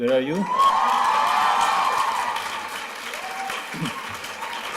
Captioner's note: applause, shouts